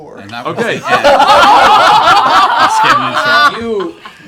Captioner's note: laughter